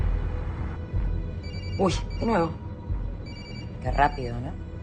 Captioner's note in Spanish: Timbra un teléfono